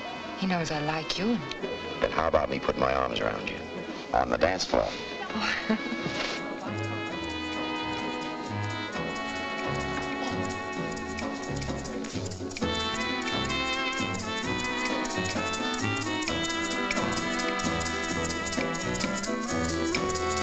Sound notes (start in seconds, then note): 5.2 laughs; 6.2 dance music playing